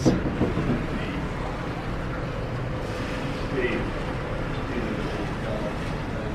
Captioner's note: quiet sea and wind blowing